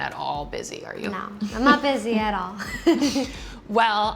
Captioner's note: laughs